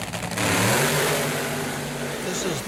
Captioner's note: engine roar